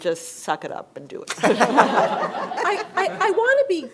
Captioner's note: laughter